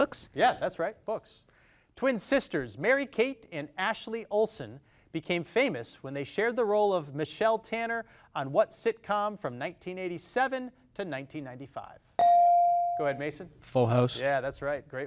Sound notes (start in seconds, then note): 12.2 device dings